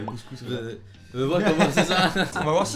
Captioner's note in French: rires